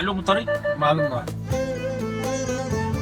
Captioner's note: speaking Arabic